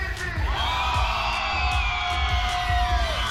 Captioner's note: cheering